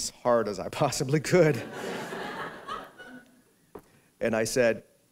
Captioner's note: laughter